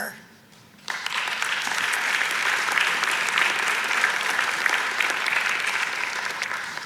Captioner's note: audience applauds